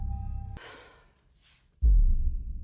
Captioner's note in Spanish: Elisabeth suspira